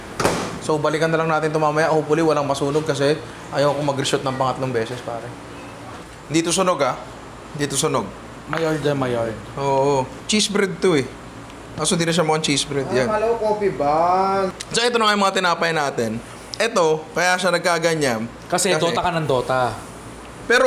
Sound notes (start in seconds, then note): none